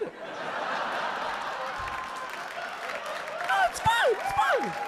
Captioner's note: audience laughing